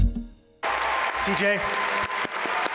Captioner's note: instrumental music; audience applaud